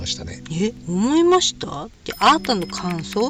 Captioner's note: laughs